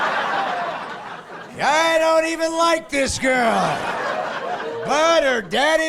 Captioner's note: laughing